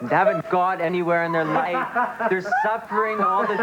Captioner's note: laughter